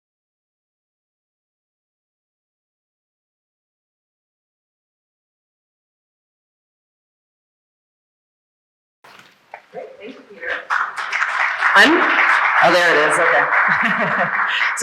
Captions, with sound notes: - All right, thank you Peter. (audience applauding) Oh there it is, okay. (chuckles)